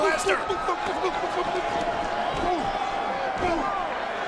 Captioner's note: crowd murmuring